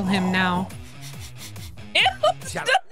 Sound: Don Corneo Sniffing

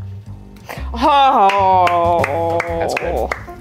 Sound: applause

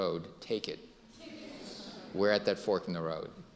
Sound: audience laughing

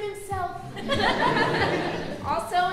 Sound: audience laughing

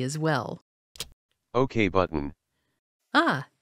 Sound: voiceover

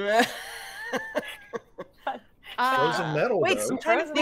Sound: team laughing

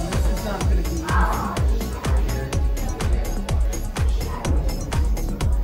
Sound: indistinct chatter; upbeat music

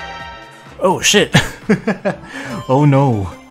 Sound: laughs

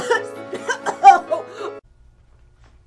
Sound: coughing

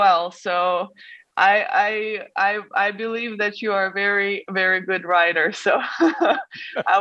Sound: laughs

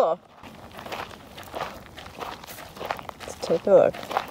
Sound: footsteps crunching on gravel

